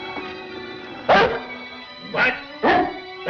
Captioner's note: dog barks